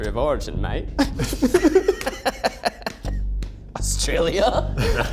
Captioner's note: group laughs